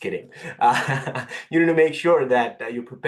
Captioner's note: laugh